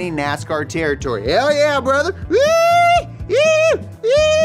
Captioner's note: howls